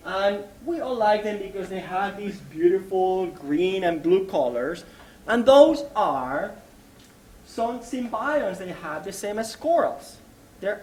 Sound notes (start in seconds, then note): none